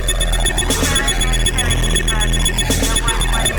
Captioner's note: police radio sounds off